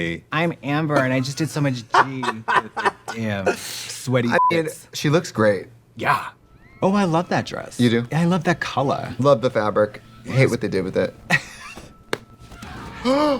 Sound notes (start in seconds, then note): 2.0 Trixie laughing; 4.3 beeping; 11.3 Katya laughs